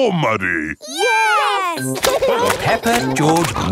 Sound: laughing

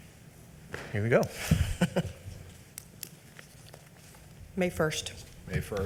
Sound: laughs

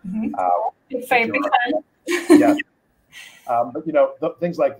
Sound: laughs

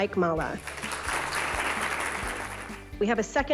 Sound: applause

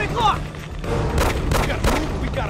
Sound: guns firing

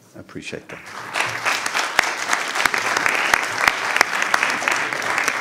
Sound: all applauding

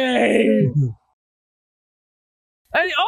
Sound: fake crying

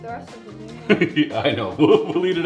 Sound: laughs

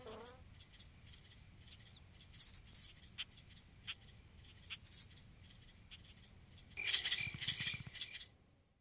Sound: birds chirping

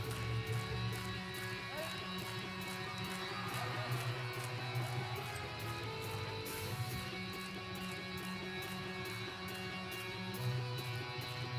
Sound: clapping

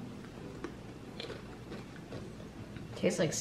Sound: crunching noise

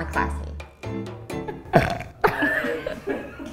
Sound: belches

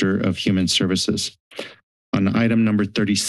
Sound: inhales

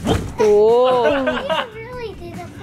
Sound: laughing

